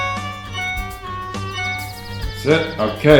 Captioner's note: phone pinging